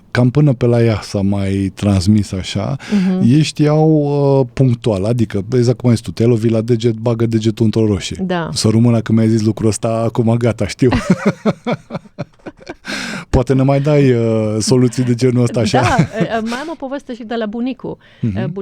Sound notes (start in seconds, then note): 10.8 laughter